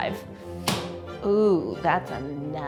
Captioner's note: pulling up handle